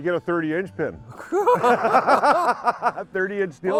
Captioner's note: laughing